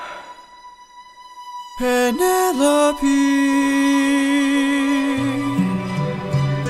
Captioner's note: sigh